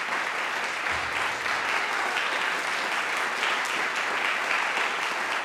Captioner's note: audience applauding